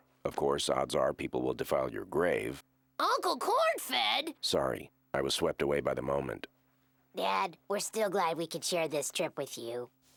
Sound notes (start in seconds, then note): none